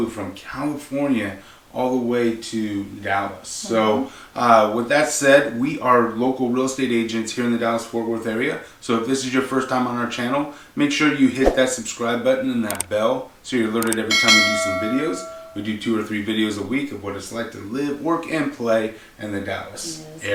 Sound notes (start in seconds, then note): 13.9 bell dinging